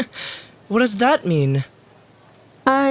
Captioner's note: chuckles